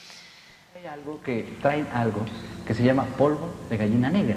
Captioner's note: speaking spanish